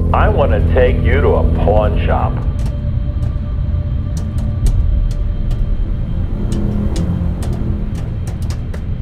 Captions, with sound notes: I want to take you to a pawn shop. (typing)